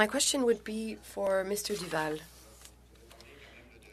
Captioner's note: speaking french